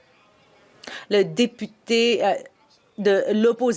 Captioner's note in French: voix de l'interprète